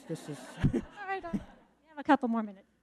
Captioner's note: audience laughing